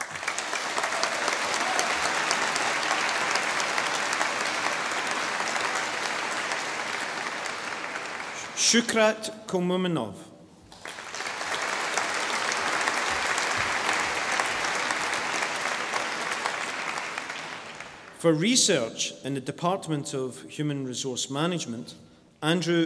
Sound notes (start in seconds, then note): 0.0 audience applauding; 10.7 audience applauding